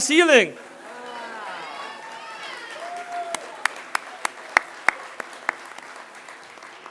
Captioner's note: applause